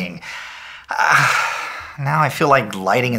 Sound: sigh

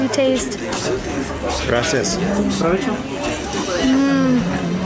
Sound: waiter murmuring

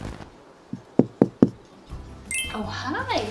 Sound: door knocking; smooth jazz music

